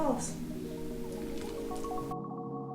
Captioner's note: slooooooosh